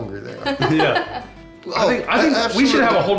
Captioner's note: laughs